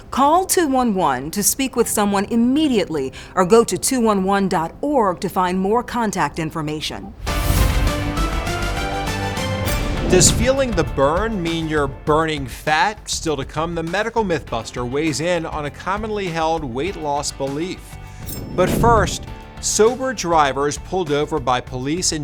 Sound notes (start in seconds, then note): 7.1 air whooshes; 7.4 bright music